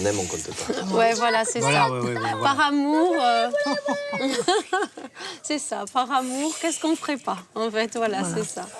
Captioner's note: laughs